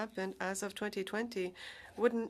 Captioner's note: speaking French